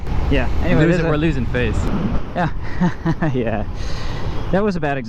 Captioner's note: chuckling